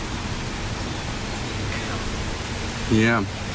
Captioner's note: Ovilus Speaking